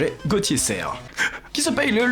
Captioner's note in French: pleure